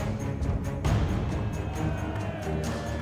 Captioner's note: cheering